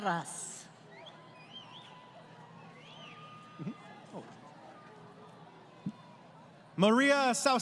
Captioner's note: crowd Cheering